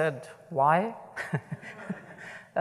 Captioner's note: laughter